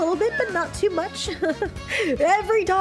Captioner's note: chuckle